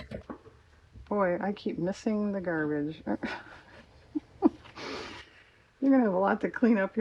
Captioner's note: laughs